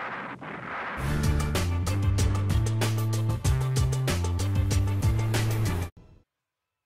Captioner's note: explosions